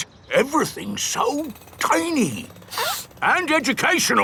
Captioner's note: sniffs